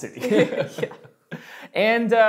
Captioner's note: both laughing